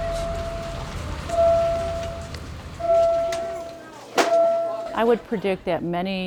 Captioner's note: soft electronic bell ringing